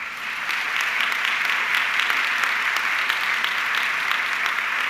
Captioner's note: audience clapping